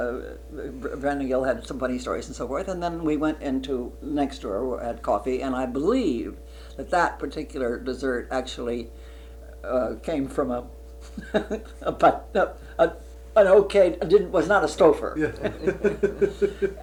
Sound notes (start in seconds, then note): 10.9 laughs; 15.2 laughter